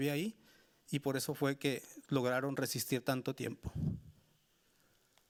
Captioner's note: speaking Spanish continues